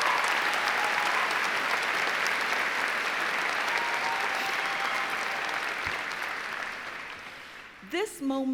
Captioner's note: applause